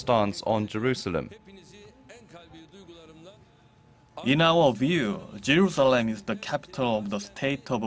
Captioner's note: Turkish